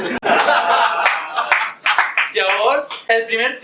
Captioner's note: laughs